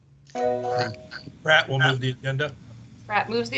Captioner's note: notification sound